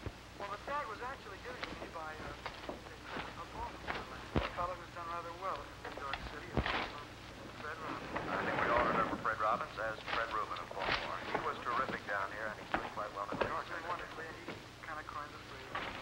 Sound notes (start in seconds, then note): 0.3 talking on radio continues; 11.3 footsteps approaching